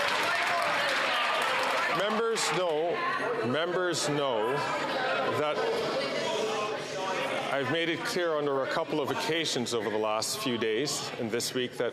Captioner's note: applause